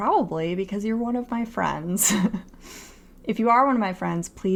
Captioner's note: laughter